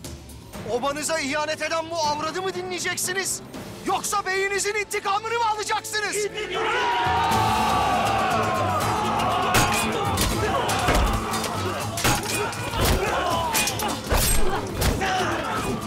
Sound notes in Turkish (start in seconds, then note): 6.7 Hep bir ağızdan; 9.3 Üst üste bağrışmalar